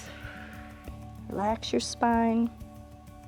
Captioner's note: inhales; exhales